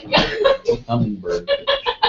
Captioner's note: laugh